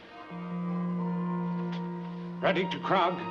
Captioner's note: machine whirs